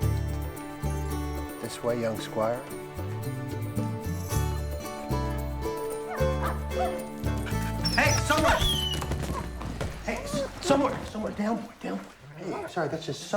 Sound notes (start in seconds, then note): 5.7 somewhere barking; 5.9 panting